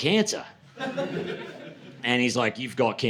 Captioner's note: laughter